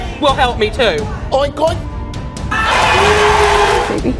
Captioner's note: beep